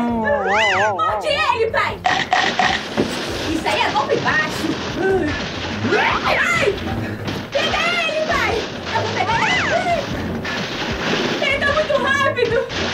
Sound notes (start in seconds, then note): 2.0 biting sounds